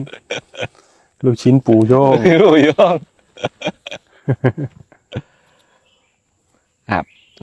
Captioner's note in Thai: เสียงหัวเราะ